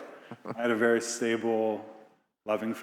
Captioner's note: Biz laughing